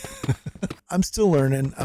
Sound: laughs

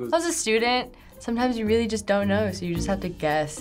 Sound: none

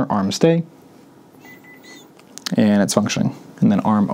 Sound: beeping

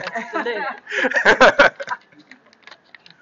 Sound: laughter

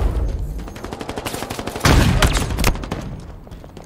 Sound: gunfire

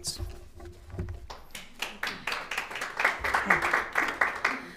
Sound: audience applauding

